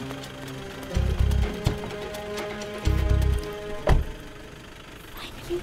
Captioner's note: Car door opens and closes